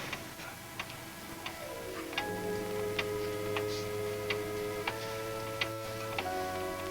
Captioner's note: clock ticks; tense music